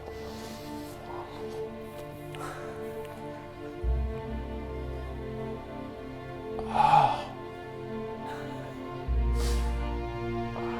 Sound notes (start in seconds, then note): 0.1 slow, serious music; 6.5 sighs